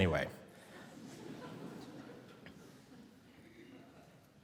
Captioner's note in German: Publikum lacht